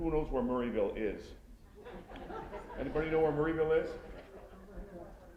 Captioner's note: laughter